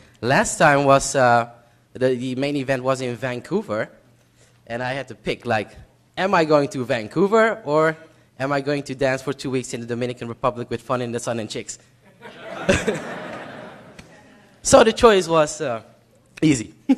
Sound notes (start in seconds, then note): 12.0 laughter